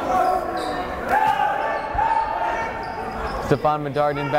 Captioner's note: yelling